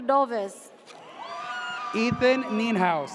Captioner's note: audience cheers